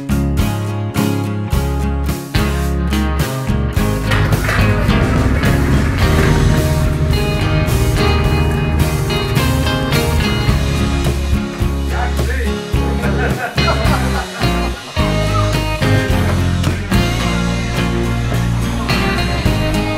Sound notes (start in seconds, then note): 12.7 laughing